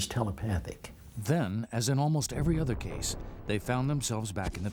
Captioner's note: voiceover